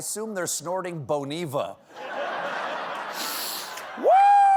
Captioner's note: laughter